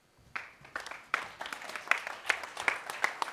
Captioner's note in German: applaus